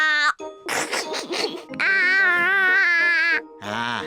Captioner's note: giggles